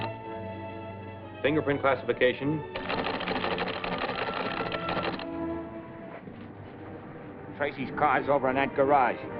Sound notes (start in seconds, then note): 2.7 teletype clacking; 5.6 dramatic music